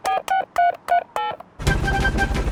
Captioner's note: dialing